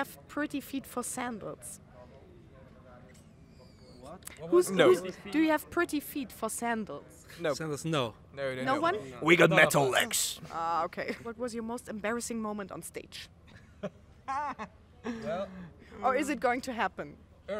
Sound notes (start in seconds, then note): 2.0 silence; 13.5 laughter